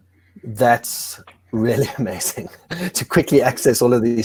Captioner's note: chuckles